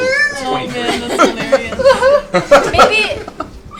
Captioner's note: all laugh